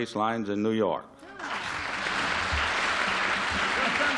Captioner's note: applause